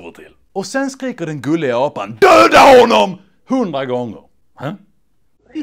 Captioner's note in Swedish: Han skriker